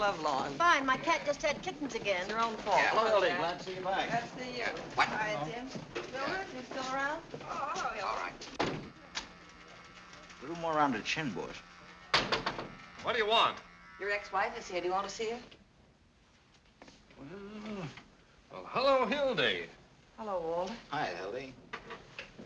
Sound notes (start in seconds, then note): 7.8 buzzing